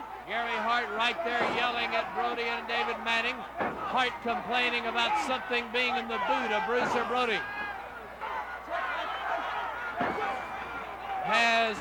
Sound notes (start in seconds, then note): 7.4 crowd cheering; 7.4 crowd yelling